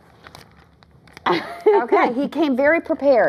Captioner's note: laughter